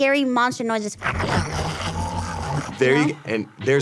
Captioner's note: computerized monster growling